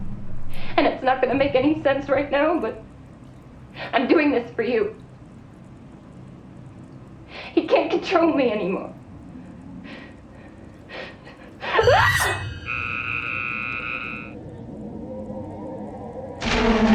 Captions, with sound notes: And it's not gonna make any sense right now but... I'm doing this for you. He can't control me anymore. (screaming) (horn blaring)